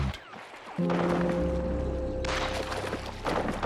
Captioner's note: gunfire